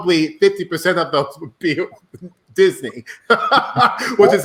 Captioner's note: laughing